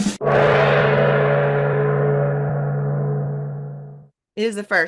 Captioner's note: drum roll; gong